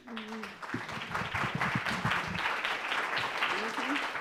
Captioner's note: audience applause